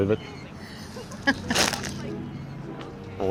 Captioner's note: laughing